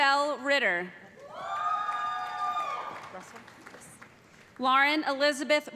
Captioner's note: cheers and applause